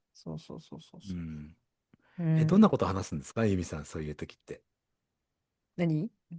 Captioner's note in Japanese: 咳払い